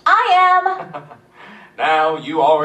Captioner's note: Cave chuckles